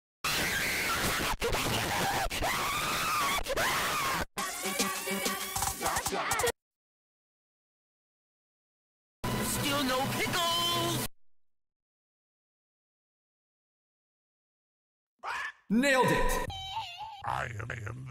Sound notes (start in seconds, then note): 15.2 somebody screaming